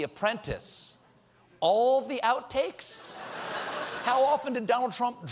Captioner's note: laughter